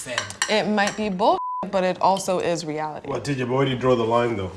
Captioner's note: beep